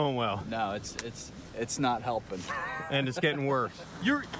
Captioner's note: laughter